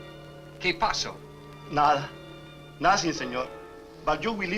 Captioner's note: Mario speaks Spanish